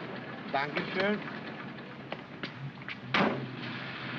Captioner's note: bids farewell in German; cab door closes